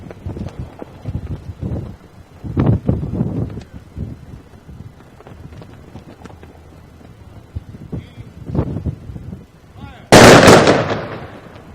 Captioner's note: rifles firing